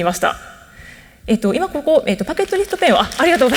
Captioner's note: applause